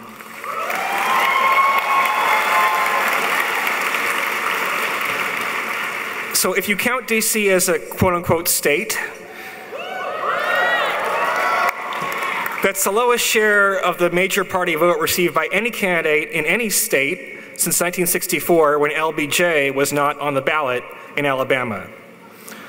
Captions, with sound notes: (applauding) So, if you count D.C. as a quote, unquote, state, (audience cheering) that's the lowest share of the major party vote received by any candidate in any state since 1964, when L.B.J. was not on the ballot in Alabama.